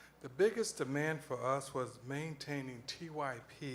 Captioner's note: none